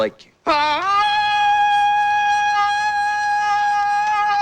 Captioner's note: loud cry